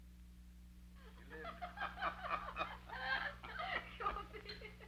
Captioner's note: both laughing